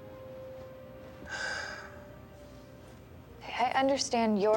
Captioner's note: sighs